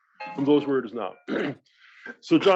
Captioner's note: cough